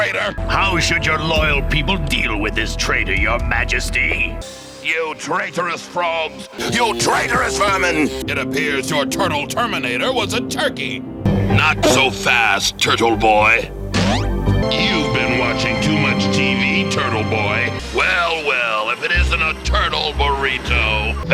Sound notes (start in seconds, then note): 13.9 boink